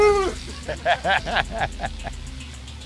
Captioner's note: laughs